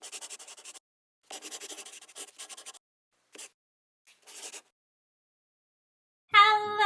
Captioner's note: the sound of a pen scratching